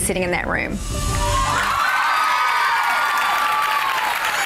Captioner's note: crowd cheers